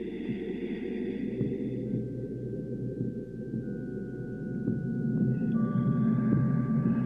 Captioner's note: labored breathing